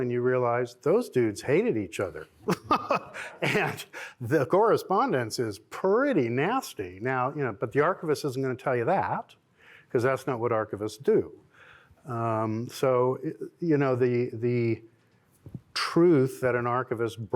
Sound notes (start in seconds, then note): 2.4 laughter